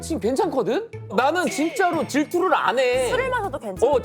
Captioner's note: frustrated